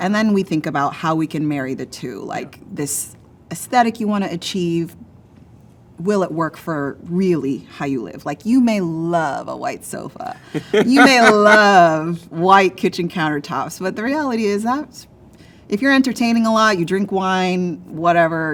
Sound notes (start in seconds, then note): 10.4 laughs